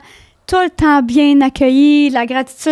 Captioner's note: in french